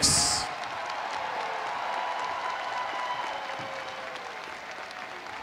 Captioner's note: audience applauding